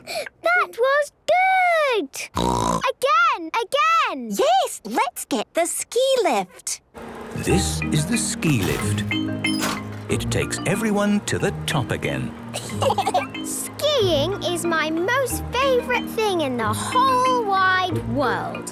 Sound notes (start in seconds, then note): 2.3 snorting; 12.5 laughter